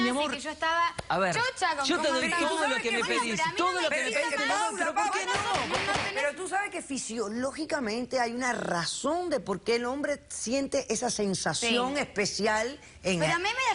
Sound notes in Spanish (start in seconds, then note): 2.0 hablan al unisono